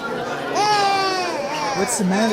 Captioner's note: baby crying